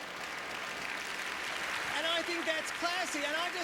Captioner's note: applause